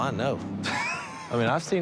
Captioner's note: laughs